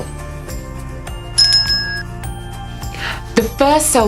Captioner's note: bell rings